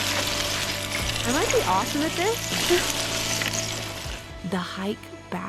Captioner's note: laughs